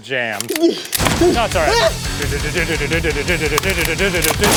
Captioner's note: shotgun sound effects; humming threateningly